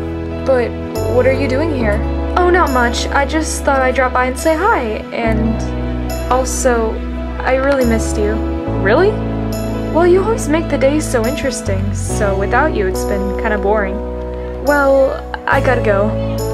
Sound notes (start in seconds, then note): none